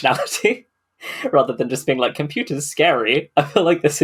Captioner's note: laughs